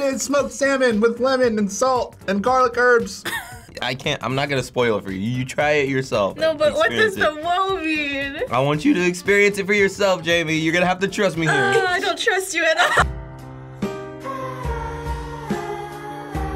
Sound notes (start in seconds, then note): 3.2 chuckling; 11.6 groaning; 12.7 melancholy music